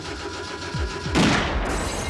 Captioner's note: gun shot